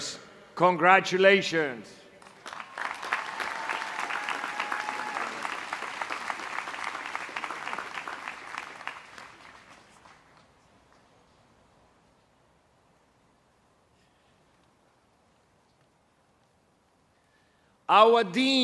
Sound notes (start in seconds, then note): 11.3 applause